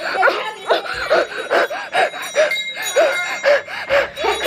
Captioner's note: bell noise; pants